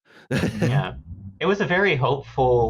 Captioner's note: laughs